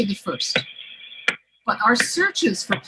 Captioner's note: soft clicking sound